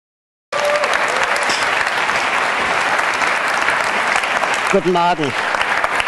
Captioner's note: applause